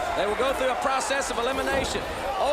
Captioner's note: crowd chatter